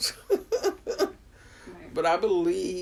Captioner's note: woman 9 laughs